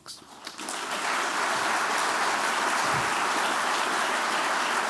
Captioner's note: applause